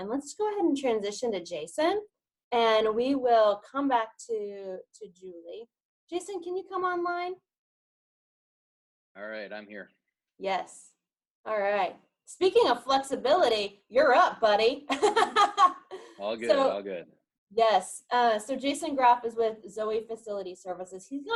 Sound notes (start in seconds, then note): 15.0 laughs